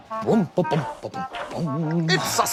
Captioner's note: hums happily